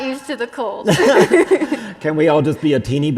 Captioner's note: both laughing